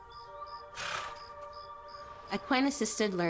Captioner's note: birds chirping; horse snorts